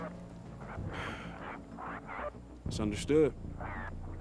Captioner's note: sighs